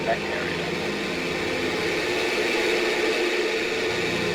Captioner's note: Static